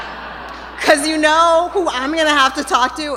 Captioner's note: laughter